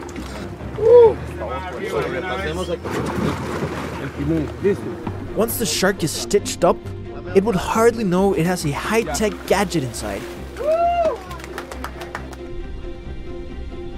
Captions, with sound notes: (people speaking in Spanish) Once the shark is stitched up, it will hardly know it has a high-tech gadget inside!